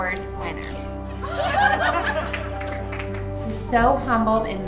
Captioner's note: laughter